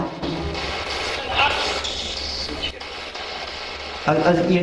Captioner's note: static buzzing